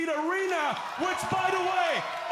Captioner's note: cheers and applause